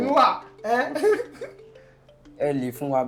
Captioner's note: laughs